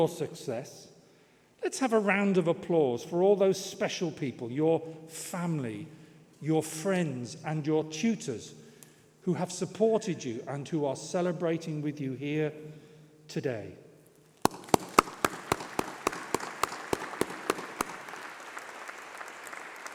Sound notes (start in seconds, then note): 17.8 applause